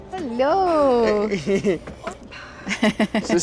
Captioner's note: everyone chuckles